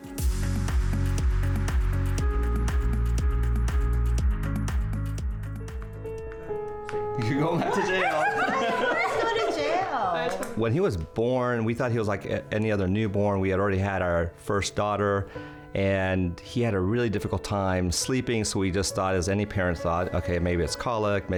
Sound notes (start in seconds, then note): 0.3 upbeat music; 7.3 family laughs